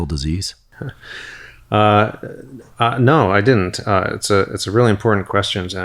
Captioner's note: chuckles